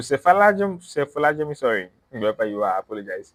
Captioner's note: speaks in foreign language